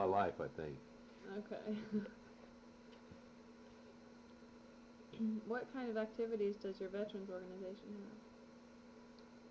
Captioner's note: laughs